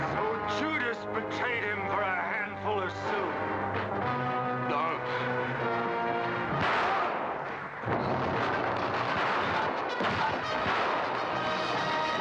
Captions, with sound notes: - So Judas betrayed him for a handful of silver. - Don't. (gun fires) (thump) (door crashing down)